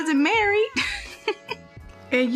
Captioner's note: laugh